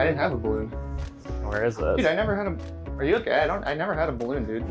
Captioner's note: audience laughter